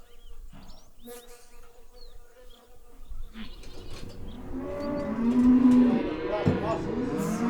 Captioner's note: fly buzzing